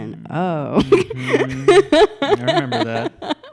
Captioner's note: laughs